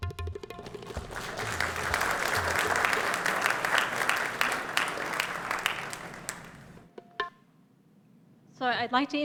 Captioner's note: applause